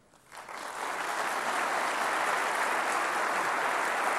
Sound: audience applauding

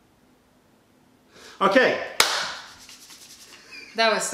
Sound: laughter

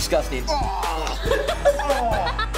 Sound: laughing

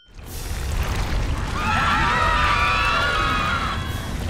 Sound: screaming

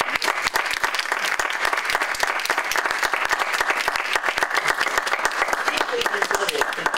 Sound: applause

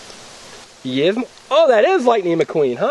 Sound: voiceover

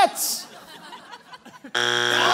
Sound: buzzer sounds

